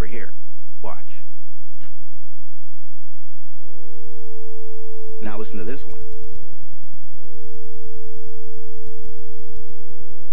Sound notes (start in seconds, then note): 3.8 tuning fork rings faintly; 6.7 second tuning fork rings